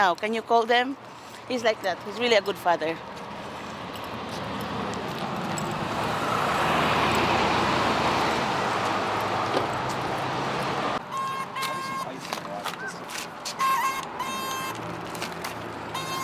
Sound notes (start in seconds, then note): 5.7 car whooshing; 11.2 crew chattering; 11.2 loud spraying